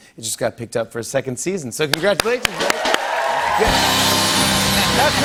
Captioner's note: cheers and applause